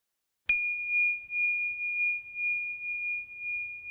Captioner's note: bell rings